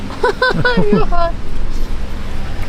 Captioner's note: laughs